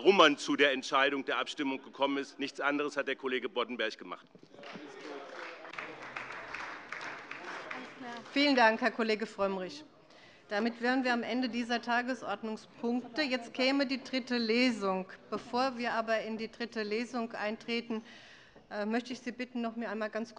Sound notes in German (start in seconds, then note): 4.5 Beifall bei dem BÜNDNIS 90/DIE GRÜNEN und der CDU